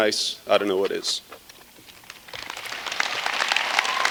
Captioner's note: applause